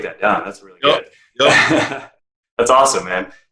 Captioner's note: laughing